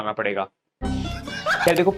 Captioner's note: laughing